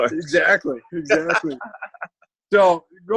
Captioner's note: laughs